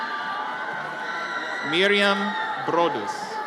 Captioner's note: audience cheers